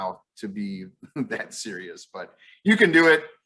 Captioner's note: chuckles